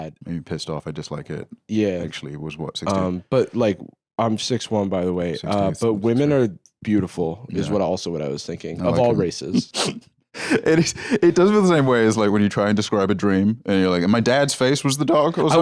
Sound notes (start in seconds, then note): 10.4 laughs